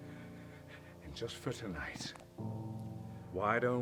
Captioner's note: light static